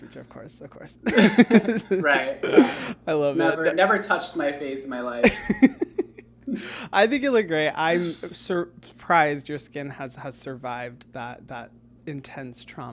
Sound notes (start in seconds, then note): 1.0 laughing; 5.2 laughing